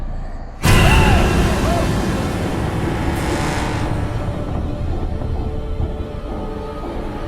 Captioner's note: dramatic music; screams